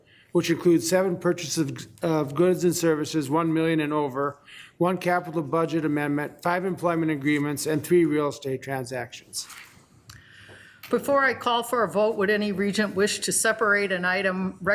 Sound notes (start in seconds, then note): none